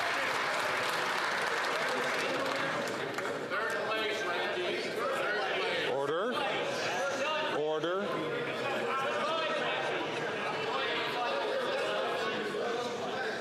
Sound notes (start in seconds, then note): 3.3 some Applause